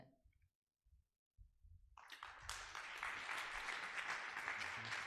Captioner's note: audience applause